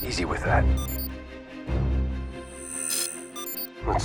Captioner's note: beeping